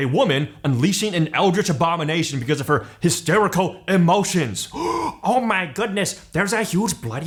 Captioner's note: gasp